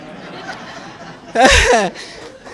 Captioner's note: laughter